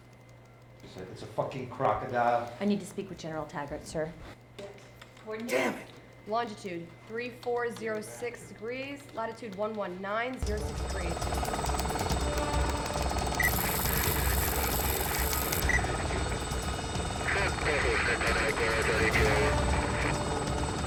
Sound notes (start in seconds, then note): 10.4 dramatic music; 11.2 helicopter whirring; 17.7 radio chattering